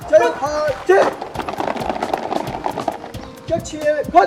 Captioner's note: stomp